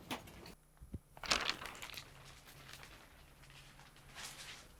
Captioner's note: rattling